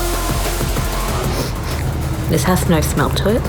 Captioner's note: sniffs